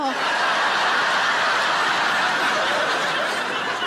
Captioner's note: audience laughs